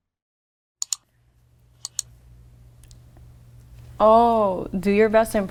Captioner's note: mouse clicks